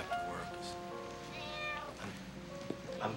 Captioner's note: meow